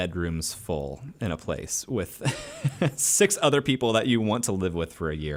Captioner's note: laughs